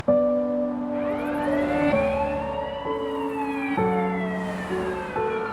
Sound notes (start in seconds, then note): 0.0 smooth music; 0.7 sirens blaring